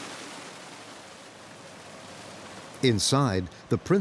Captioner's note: water splashing